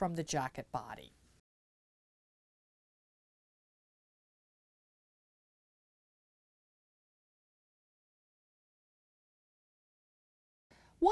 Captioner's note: no Sound Present